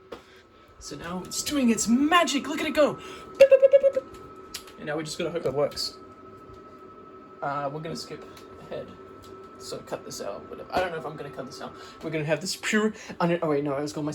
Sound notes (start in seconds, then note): 2.6 makes noises along with the LEDs flashing